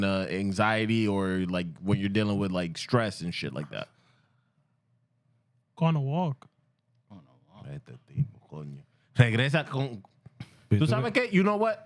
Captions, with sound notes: anxiety, or when you're dealing with stress and shit like that? Going to work. Going to work. (Speaking Spanish) You know what?